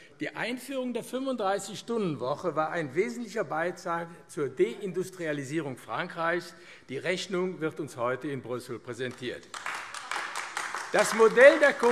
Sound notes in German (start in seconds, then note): 9.0 Beifall AfD